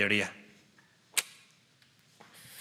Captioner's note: clicks tongue